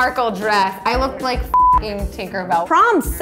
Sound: beep

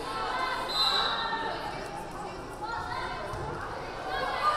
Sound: whistle blaring

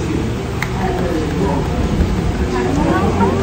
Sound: automatic applause

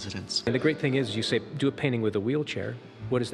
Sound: voiceover

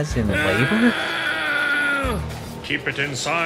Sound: moaning

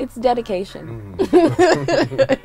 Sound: laughing

